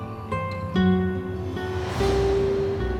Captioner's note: transition sound